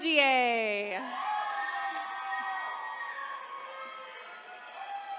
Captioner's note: attendees cheering